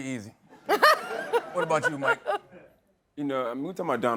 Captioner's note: laughter